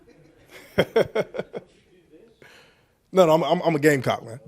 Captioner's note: chuckles